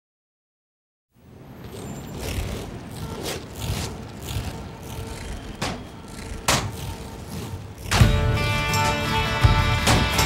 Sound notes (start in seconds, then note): 5.5 metal clanking